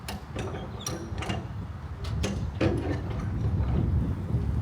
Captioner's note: ratchet clanking